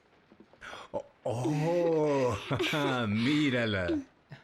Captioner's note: laughs